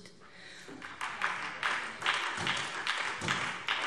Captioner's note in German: Beifall SPD